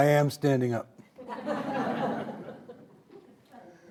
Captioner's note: audience laughing